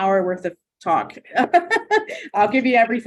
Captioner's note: chuckling